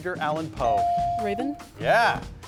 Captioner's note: bell dings